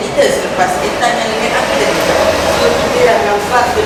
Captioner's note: gustly winds